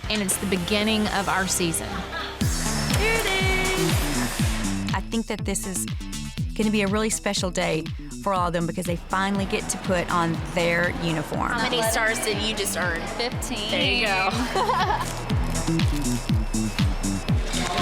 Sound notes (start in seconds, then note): 2.5 upbeat music; 13.8 laughing; 16.2 upbeat music